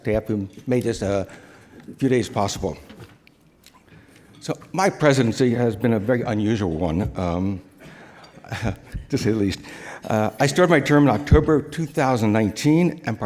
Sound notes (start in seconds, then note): 8.4 chuckles